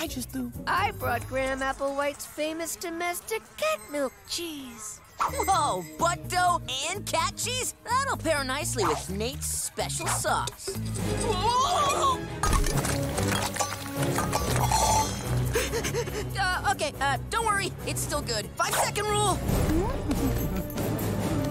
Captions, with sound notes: I brought Gram Applewhite's famous domestic cat milk cheese. Whoa, butt dough and cat cheese? That'll pair nicely with Nate's special sauce. Whoa! [clanking] [breathing heavily] Uh, okay, uh, don't worry, it's still good. Five second rule.